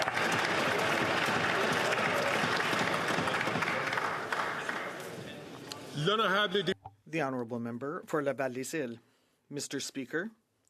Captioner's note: some Applause